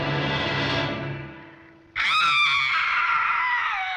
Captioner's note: screaming